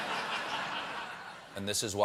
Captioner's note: laughter